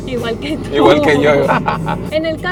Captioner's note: laughter